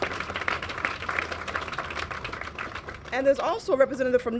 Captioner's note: applause